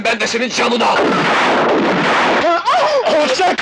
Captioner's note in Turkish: Silah sesleri